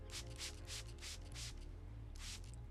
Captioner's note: water spraying